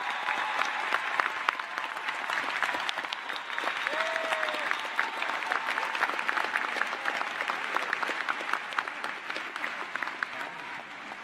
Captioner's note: cheers and applause